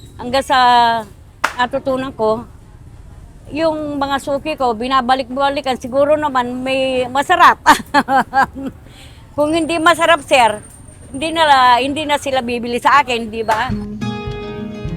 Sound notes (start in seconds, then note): 7.6 laughs